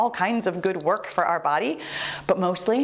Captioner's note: timer beeps